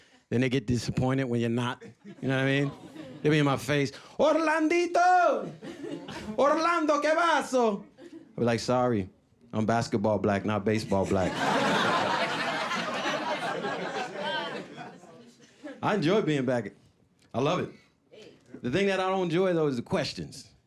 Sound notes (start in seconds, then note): 10.6 audience laughing